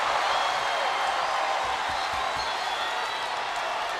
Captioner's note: crowd cheering